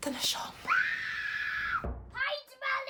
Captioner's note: screaming